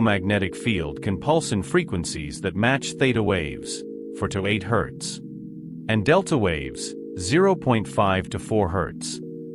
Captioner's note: theta waves